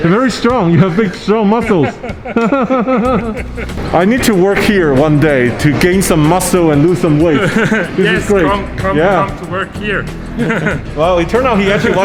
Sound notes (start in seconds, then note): 1.6 both laughing